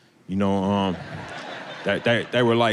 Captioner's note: audience laughing